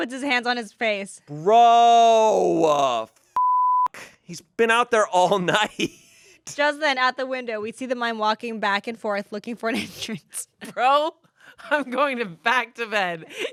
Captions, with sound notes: - "Mike puts his hands on his face." - "Bro! (beep) "He's been out there all night." - "Just then out the window, "we see the mine walking back and forth "looking for an entrance." - "Bro, I'm going back to bed.